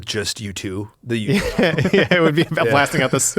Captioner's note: laughs